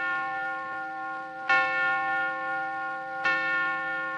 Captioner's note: clock chiming